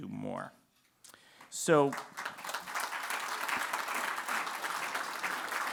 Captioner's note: applause